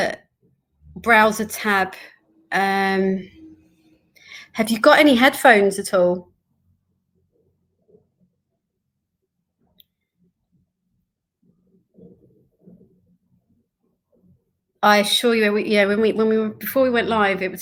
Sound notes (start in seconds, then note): 7.6 loss of audio